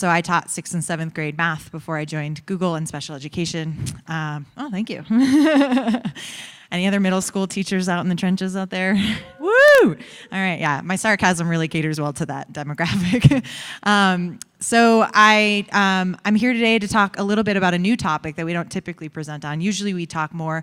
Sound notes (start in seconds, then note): 5.1 laughter; 9.3 some audience members woo